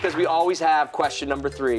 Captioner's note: cheers and applause